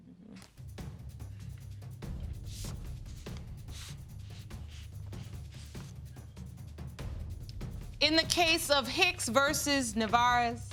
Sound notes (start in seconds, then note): none